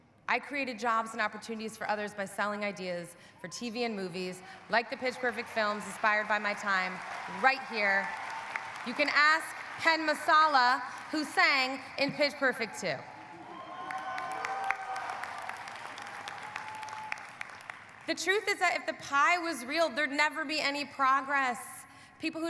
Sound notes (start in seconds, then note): 12.4 audience cheering; 13.1 audience applauding